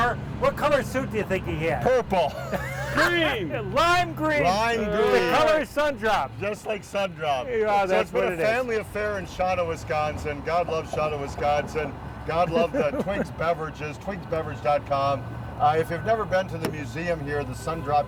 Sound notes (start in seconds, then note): 2.2 laughs